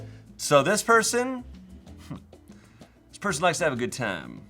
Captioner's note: chuckles